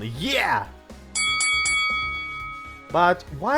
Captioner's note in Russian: боксерский колокол